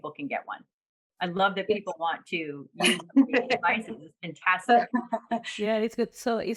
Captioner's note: laughter